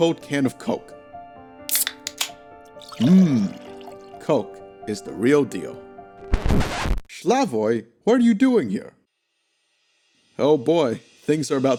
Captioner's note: Coke noises